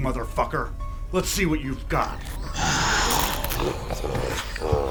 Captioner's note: ghost roaring